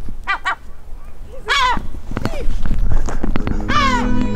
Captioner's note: seagull screams